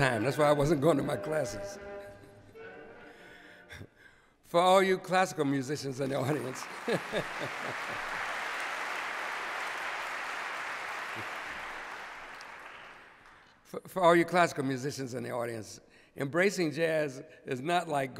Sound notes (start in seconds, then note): 6.0 applause; 6.4 chuckles